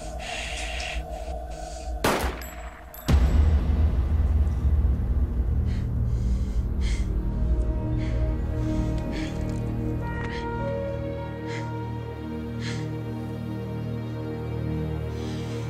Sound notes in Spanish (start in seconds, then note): 2.0 Disparo